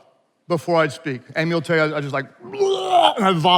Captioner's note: gags